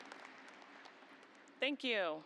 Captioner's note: applause